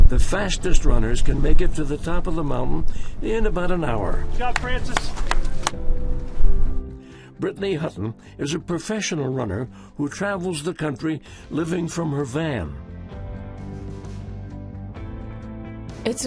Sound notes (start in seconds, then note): 4.4 hands clapping; 13.4 upbeat music